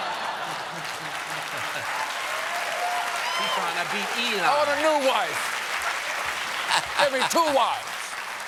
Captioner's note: cheers and applause